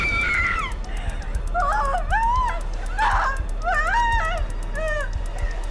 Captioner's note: Tina shrieks; shrieks; Tina whimpering